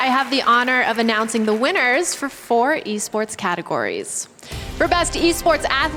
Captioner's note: applause